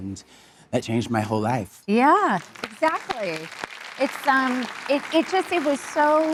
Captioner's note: applauding; audience applauding